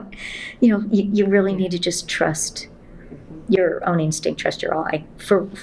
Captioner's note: laughs